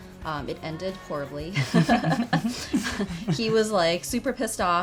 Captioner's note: laughing